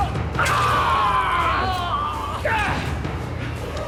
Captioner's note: screaming